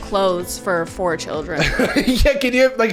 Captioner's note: laughing